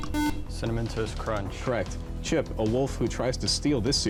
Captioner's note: buzzer